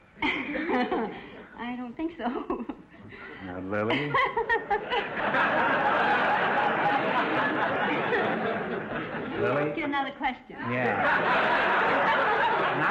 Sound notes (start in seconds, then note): 0.2 laughing; 3.8 laughing; 3.8 audience laughter